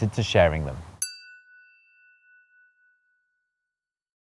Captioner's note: chiming tone